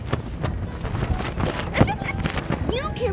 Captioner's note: laughs